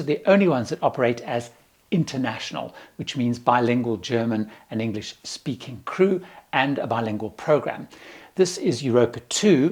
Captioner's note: German and English